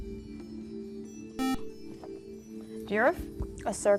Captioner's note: ethereal music; buzzer